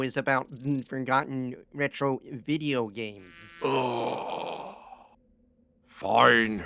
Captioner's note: sighs deeply